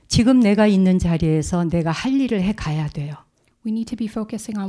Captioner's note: speaking in Korean